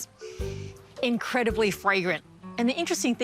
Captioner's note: inhales